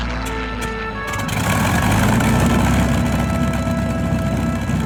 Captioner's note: airplane engine starts up